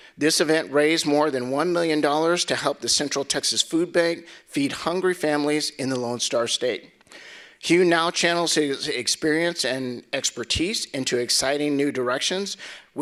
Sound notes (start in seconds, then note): none